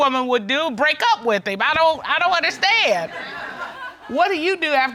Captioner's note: all laugh